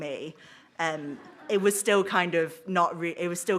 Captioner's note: audience laughs